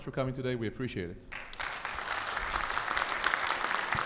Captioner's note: audience applauds